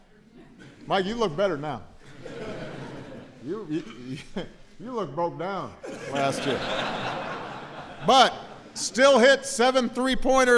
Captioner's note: laughter